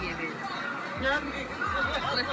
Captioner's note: laughs